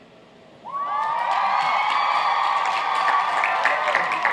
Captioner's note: applauding